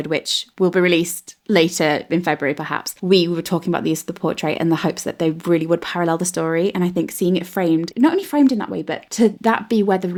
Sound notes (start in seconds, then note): none